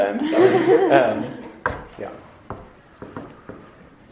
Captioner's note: audience laughter